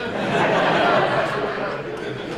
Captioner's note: audience laughs